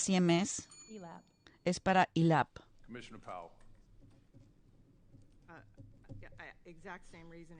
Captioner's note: bell ringing